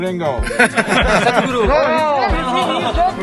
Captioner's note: few laugh